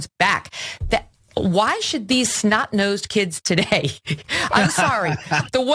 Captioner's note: laugh